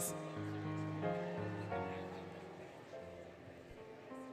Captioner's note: applause, Cheering, Music